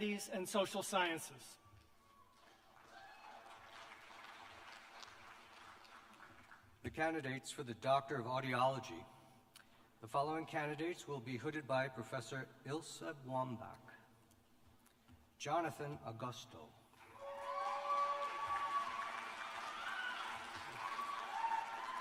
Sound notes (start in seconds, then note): 5.0 applause; 18.9 cheers and applause